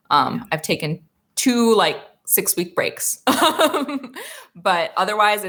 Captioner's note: laughs